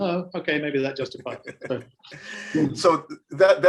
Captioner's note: laughing